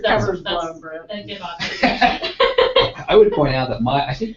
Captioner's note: laugh